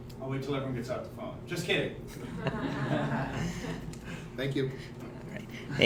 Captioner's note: people laugh